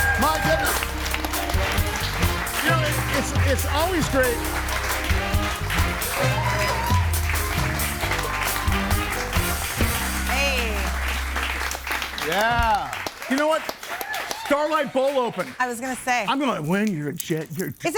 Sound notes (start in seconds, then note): 1.3 audience applauds; 4.5 audience applauds; 4.5 upbeat music